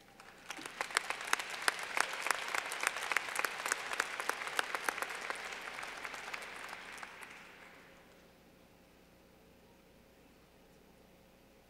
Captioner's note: clapping